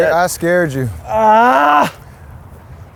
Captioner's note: screams